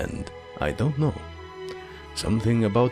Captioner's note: deep breath